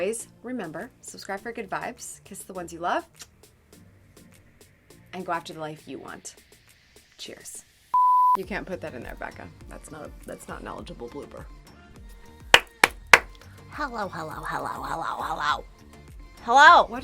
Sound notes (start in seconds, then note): 7.9 beep; 12.5 claps